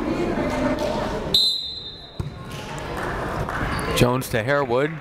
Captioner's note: whistle blaring